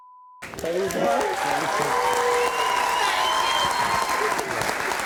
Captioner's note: cheering